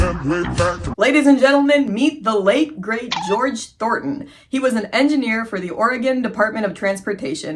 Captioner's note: funky music; poke sound